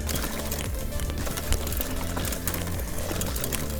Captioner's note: bike rattling